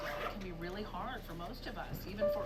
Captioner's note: voice on television